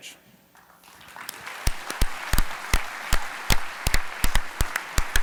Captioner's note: audience clapping